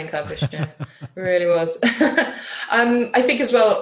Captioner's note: laughs